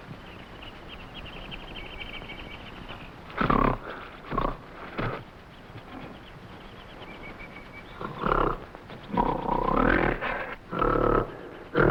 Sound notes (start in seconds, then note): 3.3 gorilla grunting